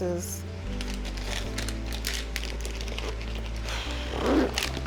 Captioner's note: paper rustling